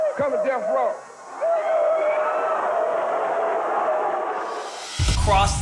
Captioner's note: cheers and applause